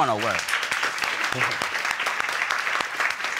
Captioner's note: audience applauding